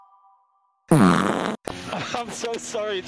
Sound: fart!!

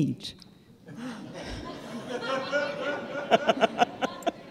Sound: audience laughing

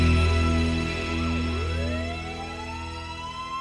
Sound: sirens wailing

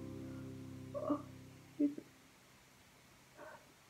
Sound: self-acknowledging yawn

